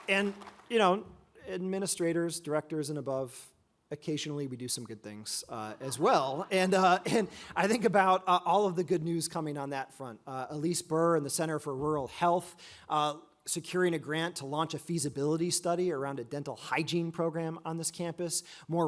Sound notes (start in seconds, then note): 5.8 audience laughs